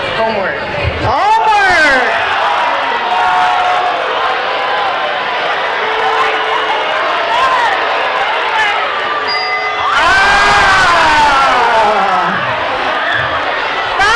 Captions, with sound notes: - Homework. - Homework! (crowd cheering) (dinging) Oh!